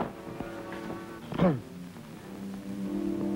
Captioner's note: CIears throat